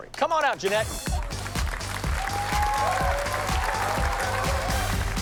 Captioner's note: applause and cheering